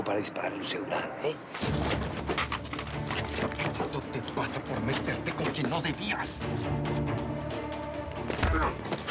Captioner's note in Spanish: patada y ruido al caer